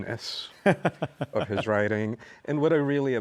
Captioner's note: laughs